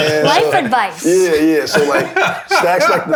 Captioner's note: laughter